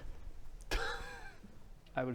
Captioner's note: teehee